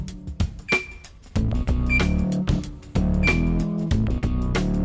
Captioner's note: beep